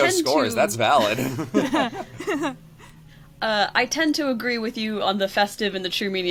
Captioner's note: laughs